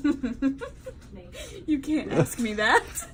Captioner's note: laughing